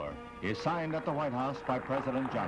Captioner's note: group applauds